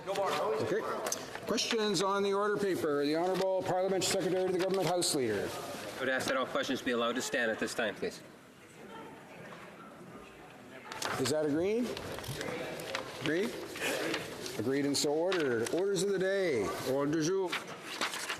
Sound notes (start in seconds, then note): 3.6 speaking French